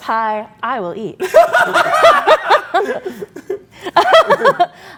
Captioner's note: laughs